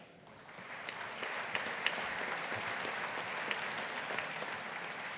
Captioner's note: audience applauding